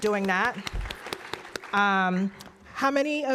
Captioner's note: applause